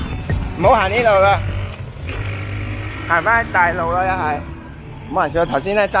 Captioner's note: husband's nervous voice